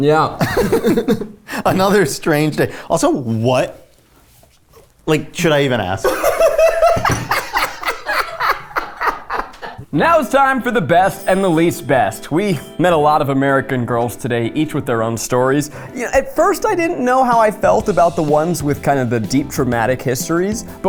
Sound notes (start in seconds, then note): 0.4 both laugh; 6.0 laughs